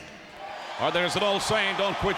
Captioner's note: audience cheering